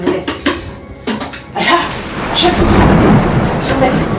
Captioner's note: chanting